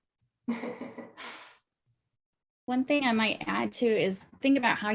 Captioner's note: laugh